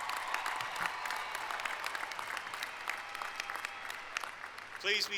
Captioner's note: applause